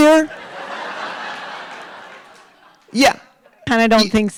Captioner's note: audience laughing